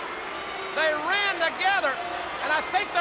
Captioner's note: crowd clamoring